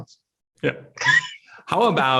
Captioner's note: laughs